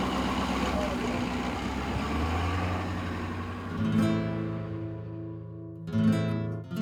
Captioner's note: truck rumbling; guitar strums